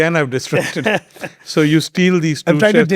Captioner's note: both laughing